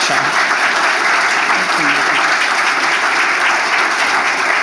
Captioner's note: audience applauding